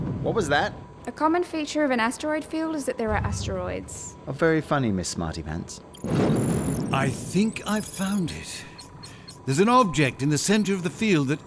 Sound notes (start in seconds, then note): 5.9 scanning, bang